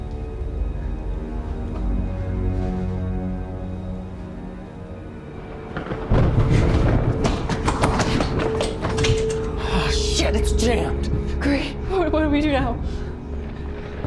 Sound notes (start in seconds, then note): 5.3 thunder rumbles